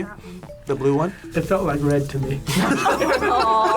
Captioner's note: group laughs